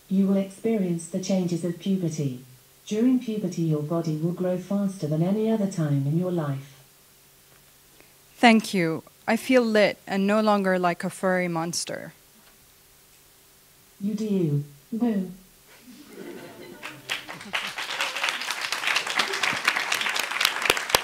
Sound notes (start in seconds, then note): 15.8 laughing; 15.9 boo; 16.0 audience applauding